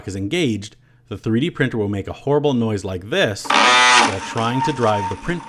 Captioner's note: loud Grinding Noise